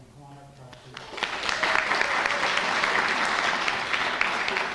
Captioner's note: applause